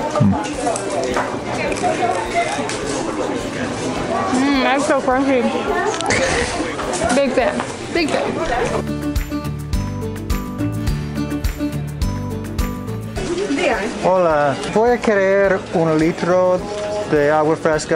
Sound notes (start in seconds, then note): 1.7 food crunching; 1.7 people chattering; 8.8 upbeat music; 13.3 and vendor speaking Spanish